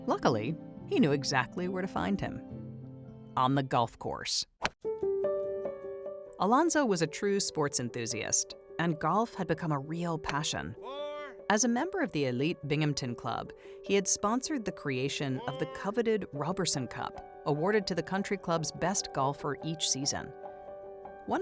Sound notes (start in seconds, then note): 4.6 bright music; 4.6 golf club clacks